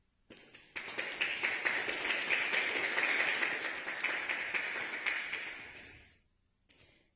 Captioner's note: clap